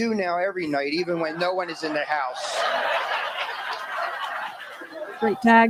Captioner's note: laughter